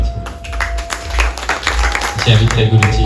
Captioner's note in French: applaudissements